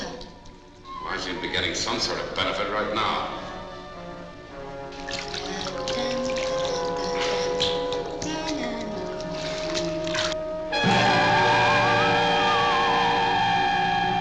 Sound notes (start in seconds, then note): 4.0 soft, eerie music; 5.4 Tara humming; 10.7 frightening music